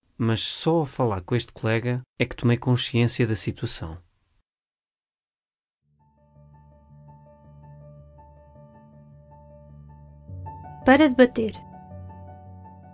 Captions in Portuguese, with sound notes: mas só ao falar com este seu colega é que tomei consciência da situação [ Piano ] [ Voz feminina ] Para debater